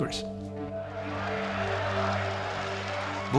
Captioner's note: demonstrators chanting